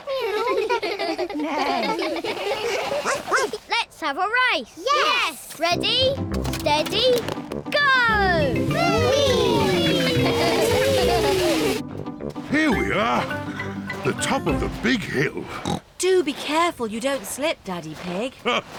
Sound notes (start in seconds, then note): 0.0 all laugh; 2.6 barks; 9.5 giggling; 15.4 snorts